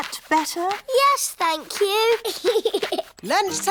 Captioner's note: giggles